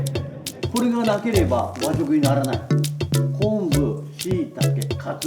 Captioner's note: man speaking Japanese